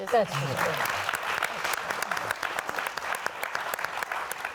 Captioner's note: audience clapping